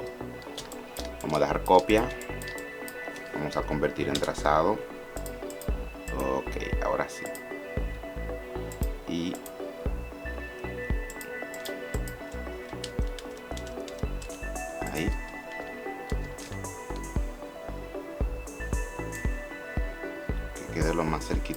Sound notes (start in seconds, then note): 7.5 typing